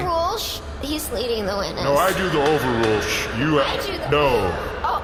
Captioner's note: banging gavel